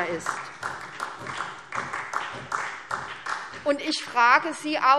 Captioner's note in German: Vereinzelter Beifall SPD